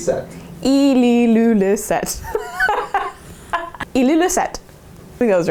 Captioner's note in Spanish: risas